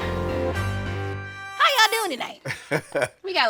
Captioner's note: laughing